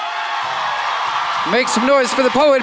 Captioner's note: crowd cheers and applauds